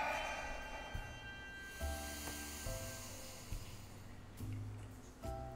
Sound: loud exhale; loud inhale

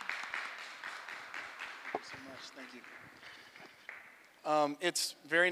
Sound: applause

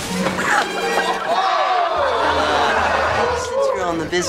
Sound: boys gasp and laugh

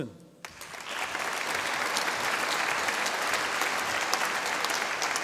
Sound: audience applauding

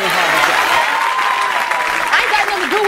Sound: audience cheering

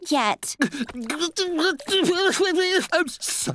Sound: sobbing

